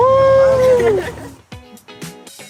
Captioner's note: group laughing; upbeat music